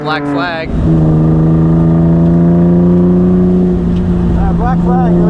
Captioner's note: engine revving